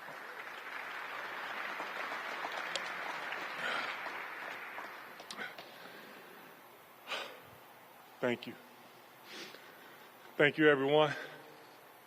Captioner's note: applause